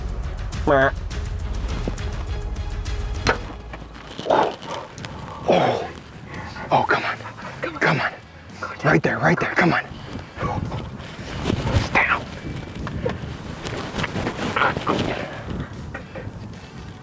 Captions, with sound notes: (arrow striking) - Oh, come on. - Come on. - Come on. Right there, right there, come on. He's down!